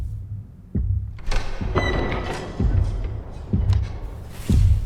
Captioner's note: suspenseful music; door opens